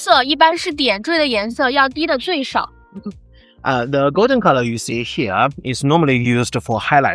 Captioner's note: speaking chinese